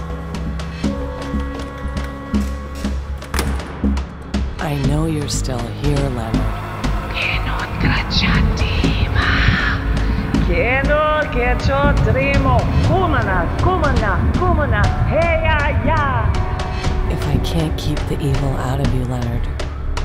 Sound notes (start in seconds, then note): 7.3 chanting in foreign language